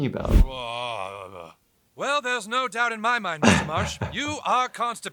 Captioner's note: grunts